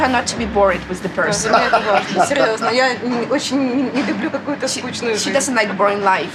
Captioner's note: laughs; speaks ukrainian